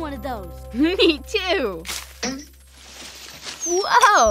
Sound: boing

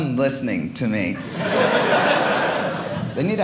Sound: audience laughing

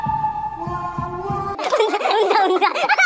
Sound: kekekekeke

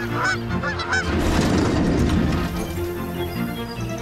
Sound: nature sounds; sound of building coming down; nature sounds

